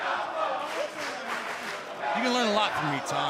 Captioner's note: crowd chatter